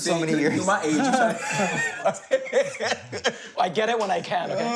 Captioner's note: all laugh